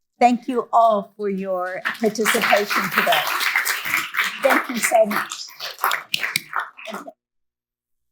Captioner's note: applause